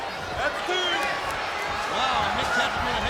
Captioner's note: applause